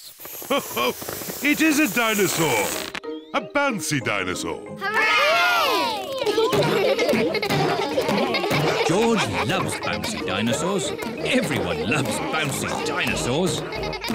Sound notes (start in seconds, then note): 0.4 laughs; 6.3 kids laughing